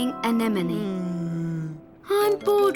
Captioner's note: moaning